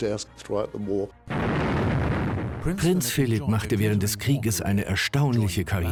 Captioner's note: voiceover